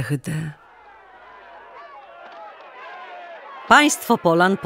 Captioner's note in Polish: okrzyki